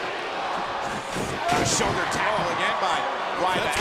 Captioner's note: audience cheering; wrestler thudding